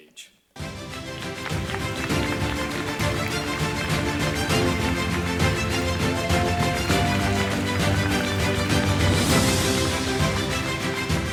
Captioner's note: applause, Music